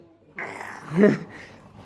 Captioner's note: laughter